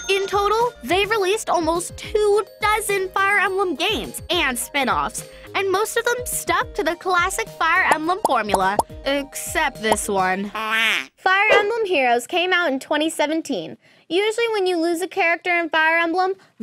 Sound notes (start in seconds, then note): 11.5 duck quacking